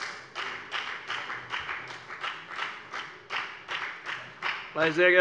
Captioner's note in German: Beifall bei der FDP